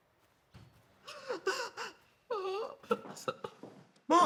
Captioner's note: crying